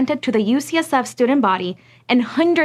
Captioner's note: none